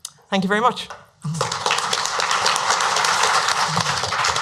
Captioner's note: applause